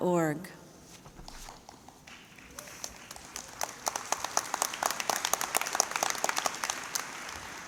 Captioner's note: applause